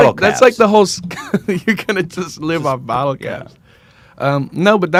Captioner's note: laughs